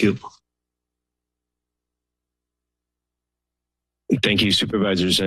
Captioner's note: silence